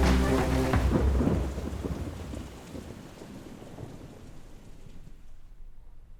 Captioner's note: thunder rolls